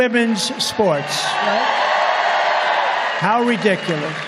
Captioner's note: crowd cheering